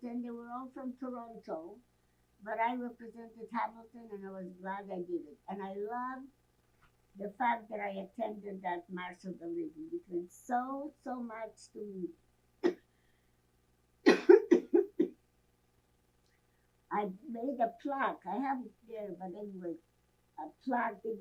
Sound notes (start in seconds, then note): 14.0 coughing